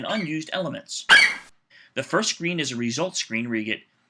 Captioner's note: FlightCheck eagle screeches